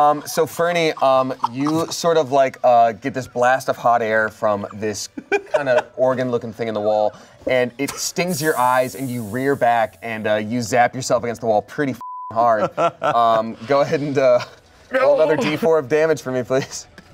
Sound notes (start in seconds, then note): 12.0 beep; 12.6 laughs